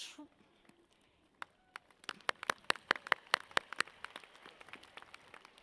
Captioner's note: audience claps